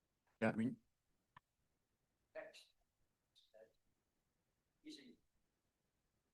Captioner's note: faintly speaking